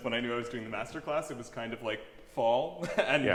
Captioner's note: chuckles